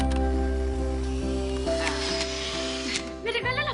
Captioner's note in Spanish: Sonido del obturador